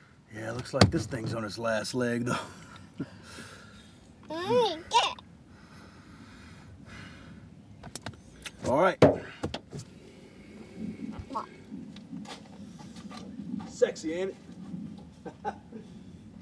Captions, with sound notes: - Yeah, looks like this thing's on its last leg though. (chuckling) (child babbling) Alright. (tapping) Sexy, ain't it? (chuckling)